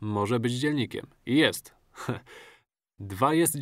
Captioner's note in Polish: śmiech